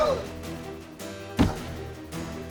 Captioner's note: thud